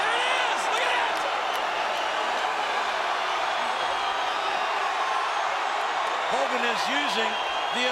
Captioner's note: applause